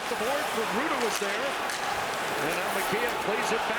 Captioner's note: booing